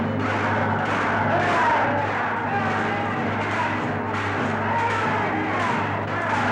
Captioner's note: men yelling continues; metal banging continues